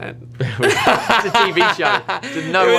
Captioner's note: laughter